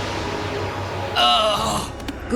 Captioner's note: ghoul grunts